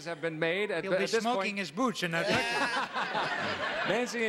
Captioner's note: audience laughing